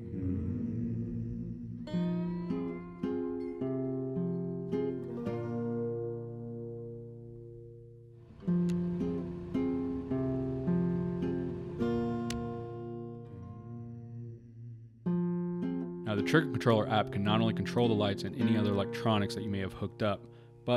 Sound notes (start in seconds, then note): 0.3 upbeat country music; 8.4 upbeat country music; 8.7 vehicle engine roaring